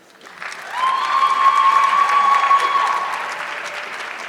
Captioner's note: audience clapping